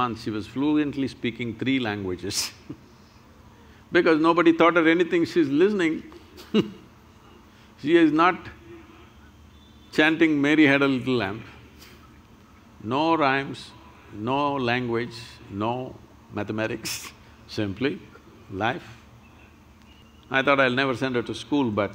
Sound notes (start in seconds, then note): 6.3 laughs; 11.7 laughs